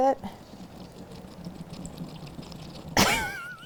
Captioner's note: sound of milk rushing out of pan